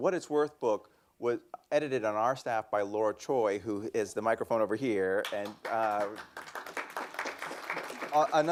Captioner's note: applause